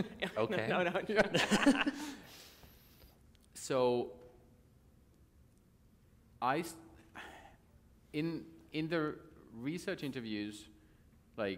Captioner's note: laughter